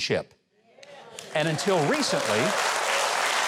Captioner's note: audience applauds